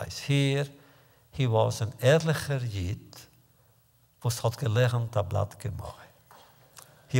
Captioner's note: Yiddish